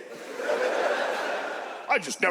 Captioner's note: audience laughs